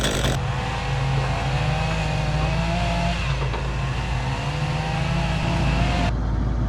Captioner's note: engine revving